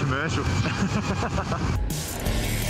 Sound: laughter; techno music

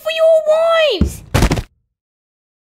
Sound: thud!

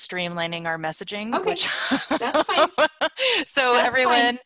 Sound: laughs

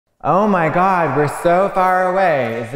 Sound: voice echoing

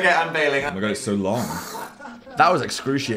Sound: blows raspberry

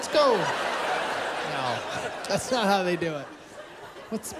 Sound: laughter

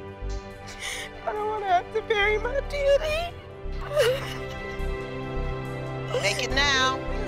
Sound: crying

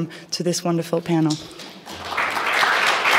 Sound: applause

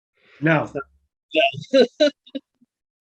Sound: laughing

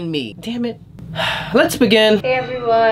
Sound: sigh

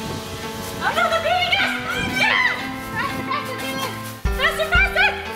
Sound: playful cheering

